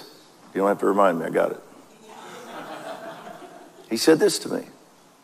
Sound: audience laughs

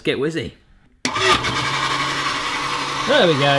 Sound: loud mixing noise

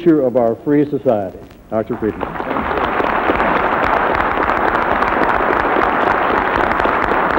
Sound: applause

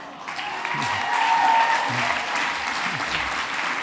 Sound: applause

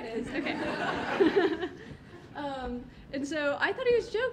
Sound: audience laughing

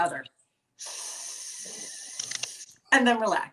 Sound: sniffing sound

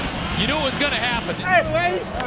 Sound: voiceover

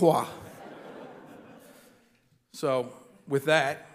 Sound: audience laughing

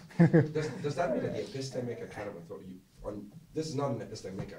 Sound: voiceover

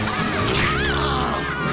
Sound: screaming

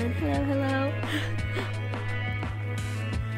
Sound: laughs

